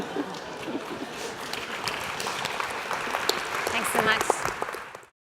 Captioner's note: applause